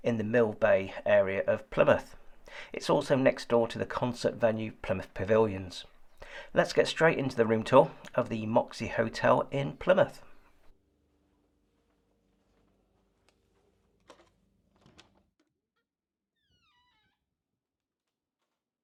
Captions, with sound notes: in the Millbay area of Plymouth. It's also next door to the concert venue, Plymouth Pavilions. Let's get straight into the room tour of the Moxy Hotel in Plymouth. (card taps) (door opens, squeaks)